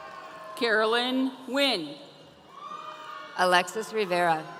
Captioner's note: audience cheering